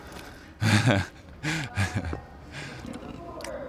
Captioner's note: laughs